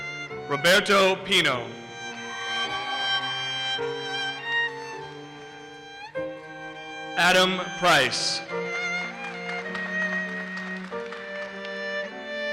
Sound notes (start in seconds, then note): 2.3 audience cheers and applauses; 9.0 audience applauses